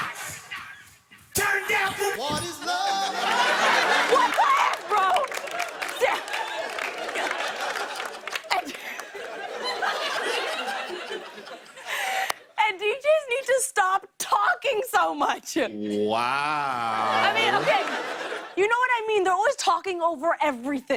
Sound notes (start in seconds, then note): 5.7 laughter, applause; 9.7 laughter